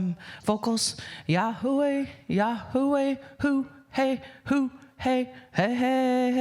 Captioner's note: speaking indigenous language